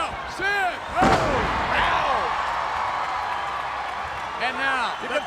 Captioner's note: audience cheers